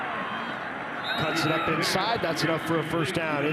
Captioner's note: referee blows whistle